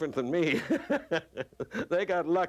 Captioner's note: laughing